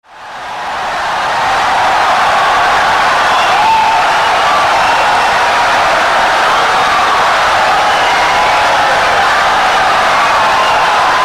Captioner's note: wild applause and cheering for 17 seconds